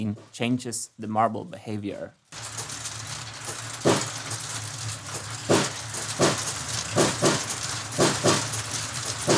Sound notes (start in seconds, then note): 2.3 rattling noises; 2.4 plays a drum beat